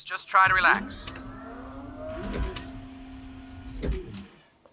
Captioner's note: machine whirling